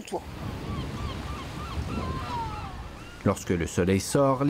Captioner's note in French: chants de mouettes